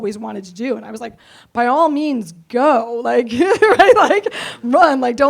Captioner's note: laughs